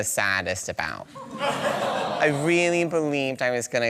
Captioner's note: audience sighs